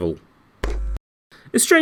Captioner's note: TV pop